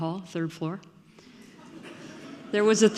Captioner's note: audience laughing